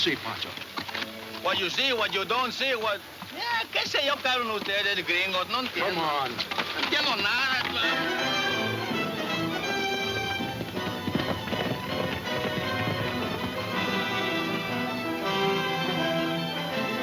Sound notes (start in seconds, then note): 2.5 speaking Spanish; 7.7 exciting orchestra music